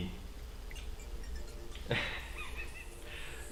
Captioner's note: wheezes